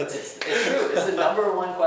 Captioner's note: laughing